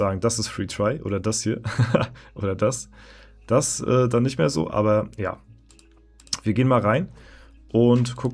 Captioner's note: laughter